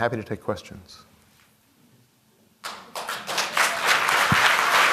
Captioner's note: applause